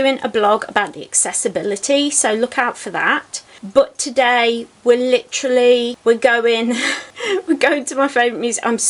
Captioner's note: giggles